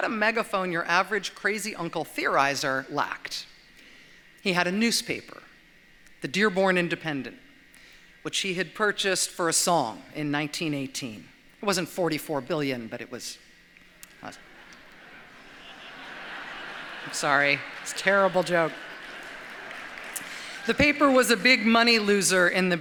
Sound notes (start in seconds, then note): 14.4 laughter